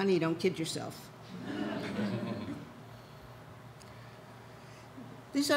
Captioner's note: audience laughs